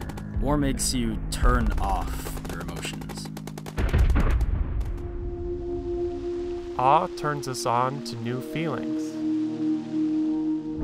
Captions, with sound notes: - [Voiceover] War makes you turn off your emotions. - [Voiceover] Awe turns us on to new feelings.